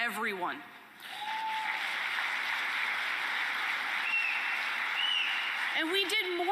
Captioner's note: applause and cheering